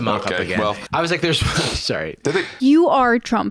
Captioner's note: laughs